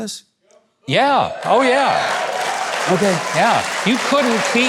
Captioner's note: crowd cheering